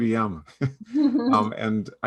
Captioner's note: laughs